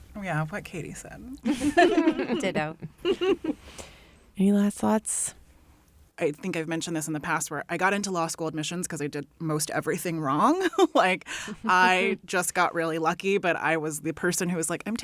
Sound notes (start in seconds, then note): 1.4 laughter